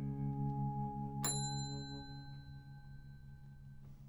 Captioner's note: bell dings